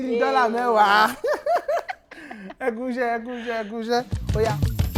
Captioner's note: laughs